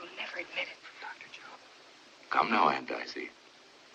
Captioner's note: whispers